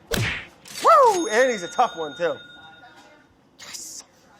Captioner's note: whipping; cash register chiming